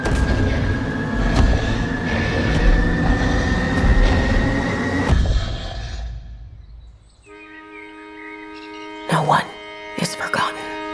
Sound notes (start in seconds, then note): 2.4 loud growling; 6.4 birds chirping